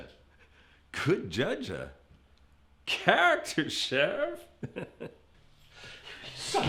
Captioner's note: laughs